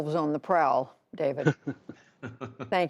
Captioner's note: laughter